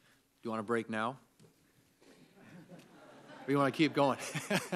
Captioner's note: laughter